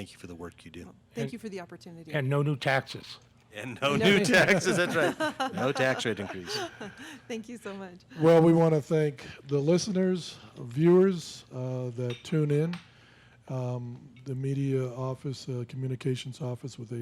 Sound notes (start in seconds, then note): 3.9 laughs